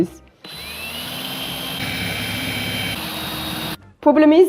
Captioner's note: drilling resumes